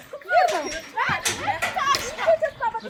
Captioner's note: laughter